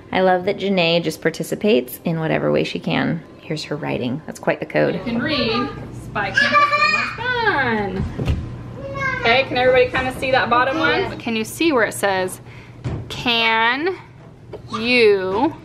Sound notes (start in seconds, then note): none